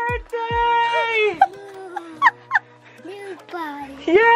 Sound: laughing

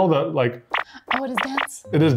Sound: squishing noise

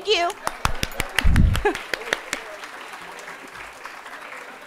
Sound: audience applauding

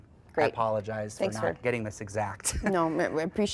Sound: chuckles

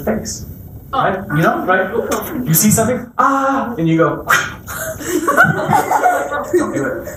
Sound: swipe sound; kids' laughter

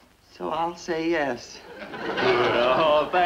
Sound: audience laughs

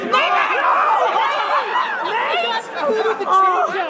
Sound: group cheers

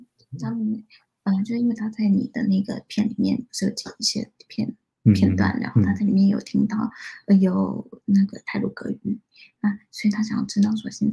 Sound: speaks mandarin

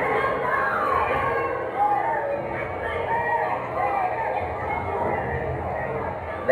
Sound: crowd noise

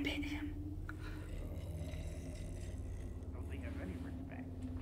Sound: distant gurgling

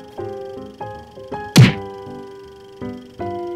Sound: smacks

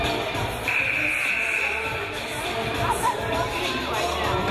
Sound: game buzzer buzzes

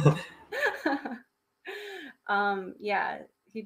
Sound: laughing

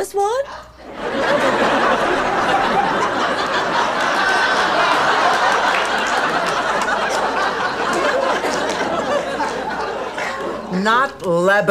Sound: audience laughter

